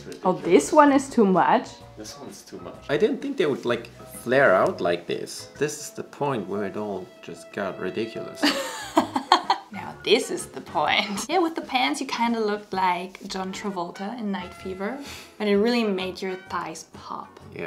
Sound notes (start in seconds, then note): 8.4 laughs